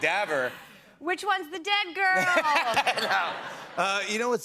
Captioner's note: laughter